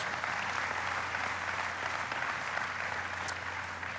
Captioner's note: applauding